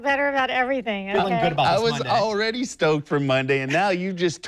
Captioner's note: laughs